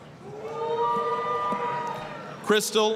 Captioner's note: applause, cheering